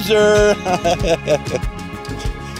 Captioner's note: laughs